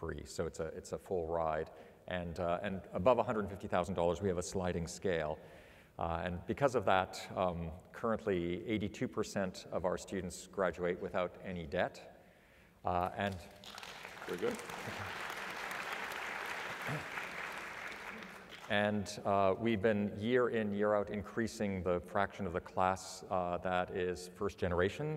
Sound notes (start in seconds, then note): 13.5 applause